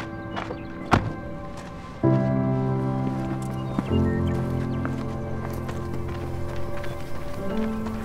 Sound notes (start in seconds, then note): 0.0 birds chirping; 0.9 car door slams